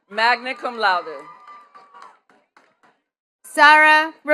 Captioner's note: attendees cheering and clapping